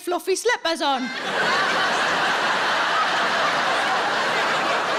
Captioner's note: audience laughing